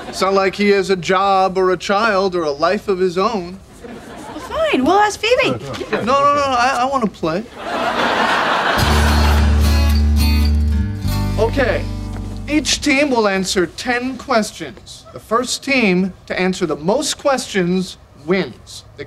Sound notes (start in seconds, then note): 7.4 audience laughing; 8.8 soft music